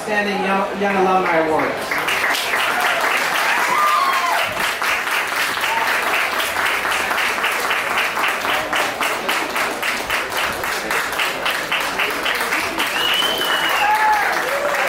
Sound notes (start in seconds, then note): 2.5 applause